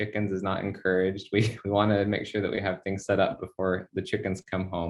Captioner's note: chuckles